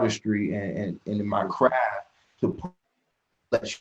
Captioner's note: disc scratch